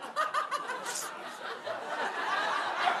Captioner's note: sniffles